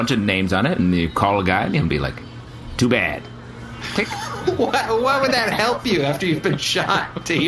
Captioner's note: laughing